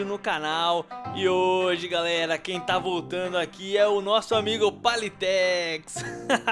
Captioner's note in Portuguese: Risos